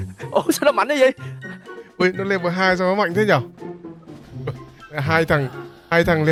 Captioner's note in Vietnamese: tiếng cười